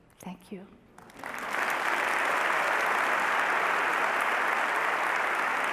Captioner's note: audience applause